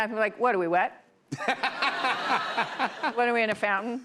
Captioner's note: laughter